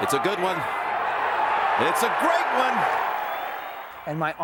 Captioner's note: crowd cheers